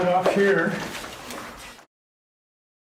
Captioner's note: rustling